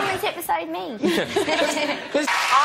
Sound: gay laughter

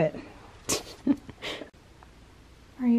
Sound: giggles

